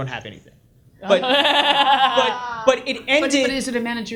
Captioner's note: audience laughs